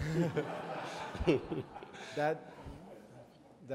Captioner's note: audience laughs